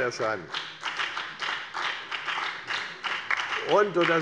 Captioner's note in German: Beifall bei der FDP und der SPD